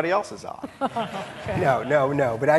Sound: audience laughing

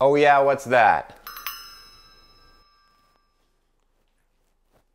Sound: bell rings

